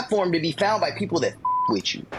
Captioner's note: beep